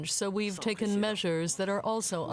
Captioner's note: speaking French